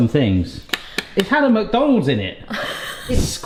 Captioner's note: laughing